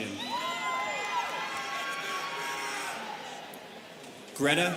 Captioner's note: students cheering